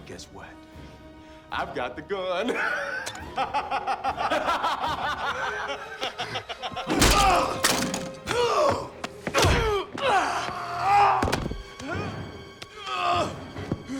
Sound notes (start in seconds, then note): 2.4 laughs; 4.4 Dalton laughs; 7.4 Knox grunts; 8.2 Knox and Dalton grunting; 8.8 blows thudding; 11.0 Knox grunting